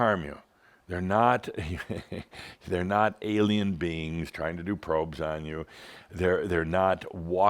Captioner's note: chuckles